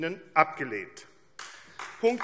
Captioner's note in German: Beifall AfD